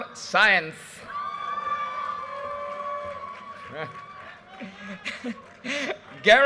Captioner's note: audience cheers and applause